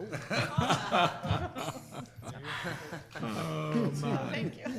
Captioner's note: group laughing